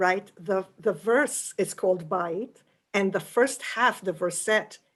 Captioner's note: yiddish